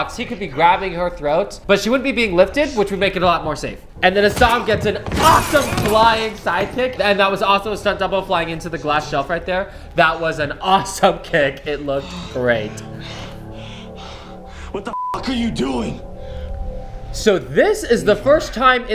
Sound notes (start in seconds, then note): 13.2 heavy breathing; 14.9 beep